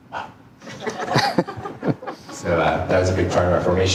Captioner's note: audience laughing